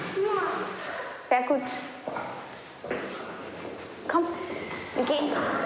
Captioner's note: speaking foreign language